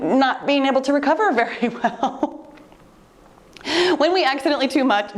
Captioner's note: laughing